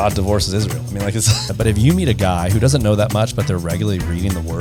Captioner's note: laughs